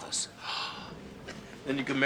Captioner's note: gasps